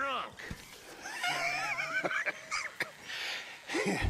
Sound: wheezes

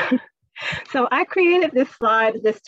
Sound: laughs

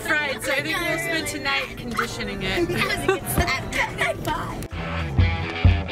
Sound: laughs; rock music

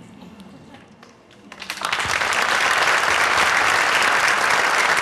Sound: applause

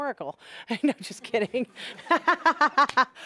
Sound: laughing

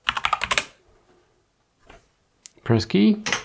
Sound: blank Audio

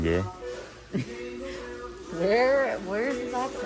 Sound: christmas music plays; girlfriend laughs

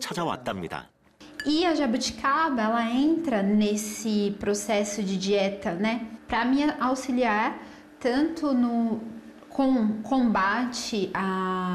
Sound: voiceover

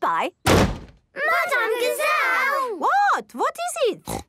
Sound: bangs

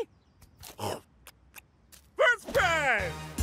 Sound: chomping

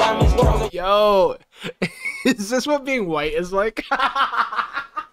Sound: laughs

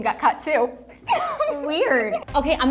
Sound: Vanessa laughing

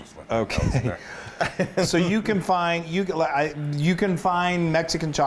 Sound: laugh

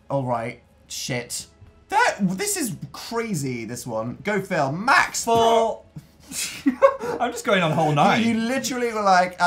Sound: laughs

